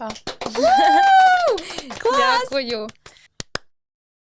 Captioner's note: claping